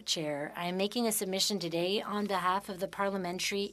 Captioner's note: speaking French